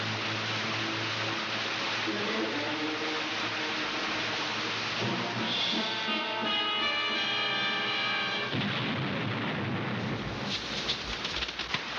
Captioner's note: yelling